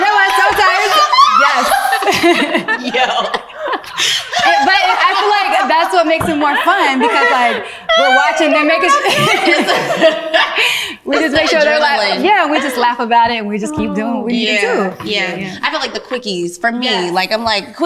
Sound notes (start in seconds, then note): 0.0 all laugh; 6.4 ladies continue laughing